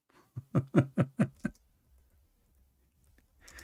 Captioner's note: Ketawa